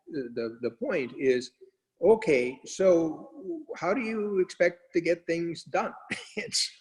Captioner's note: laughs